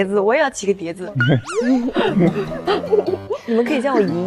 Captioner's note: laughing